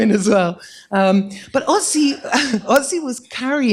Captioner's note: laughter